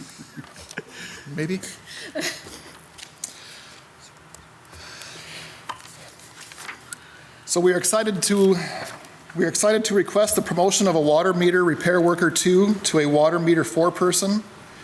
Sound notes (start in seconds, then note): 2.5 people laughing